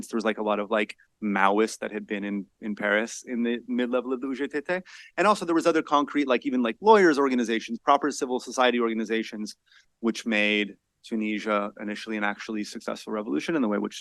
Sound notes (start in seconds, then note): 3.8 speaks foreign language